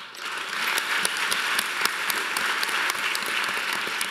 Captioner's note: audience applauding